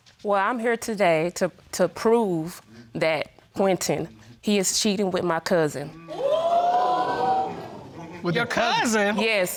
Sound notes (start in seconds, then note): 4.3 audience gasps